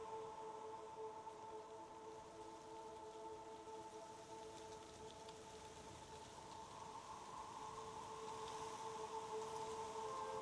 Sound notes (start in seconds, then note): 5.6 wind rustling